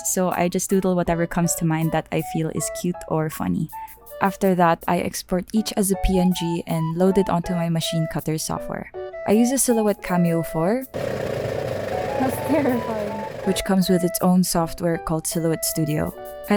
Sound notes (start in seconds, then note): 10.9 machine cutter noises